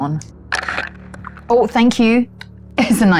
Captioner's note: dice rolling